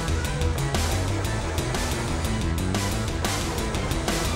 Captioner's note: car engines rumbling; thrilling music